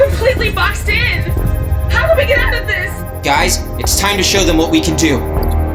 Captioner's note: over comms